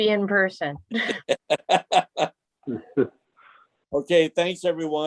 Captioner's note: laughing